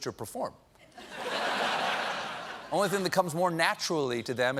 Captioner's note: laughter